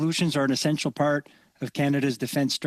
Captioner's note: speaking French